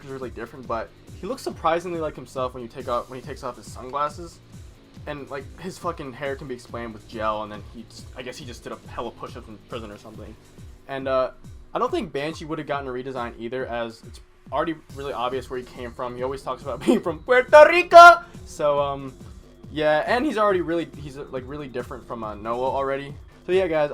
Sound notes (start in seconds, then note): 17.5 chuckle